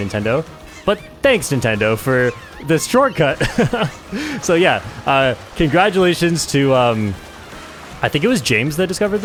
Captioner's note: laughs